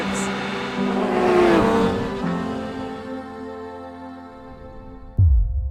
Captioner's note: engine roaring